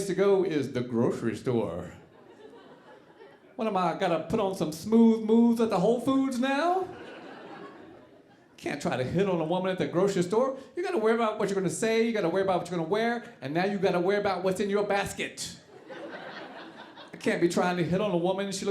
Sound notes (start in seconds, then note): 6.8 audience laughing